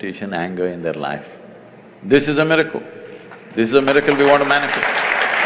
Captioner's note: applause